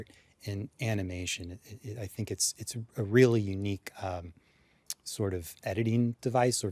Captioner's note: stutters